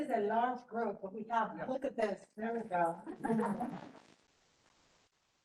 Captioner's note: chatter